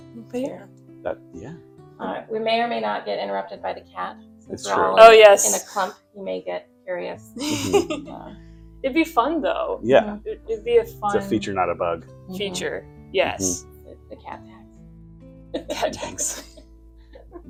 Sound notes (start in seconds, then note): 15.2 laughing